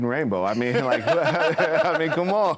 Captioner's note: both laughing